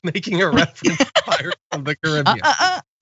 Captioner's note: laugh